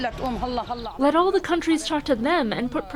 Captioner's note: through translator